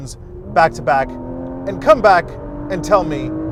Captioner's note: engine revving